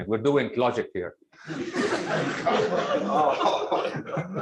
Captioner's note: laughter